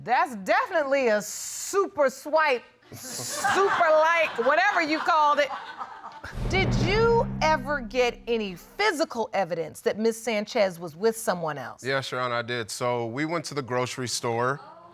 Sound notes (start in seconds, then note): 3.2 audience laughing